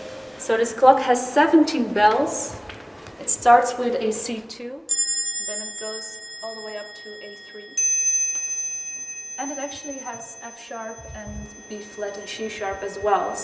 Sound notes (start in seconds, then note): 4.8 C2 bell chimes; 8.3 A3 bell chimes